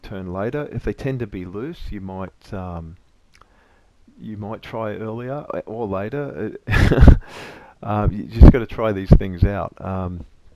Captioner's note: laugh